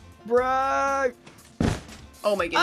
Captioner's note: blocks break